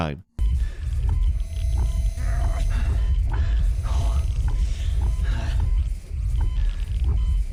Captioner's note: machines beeping; character groaning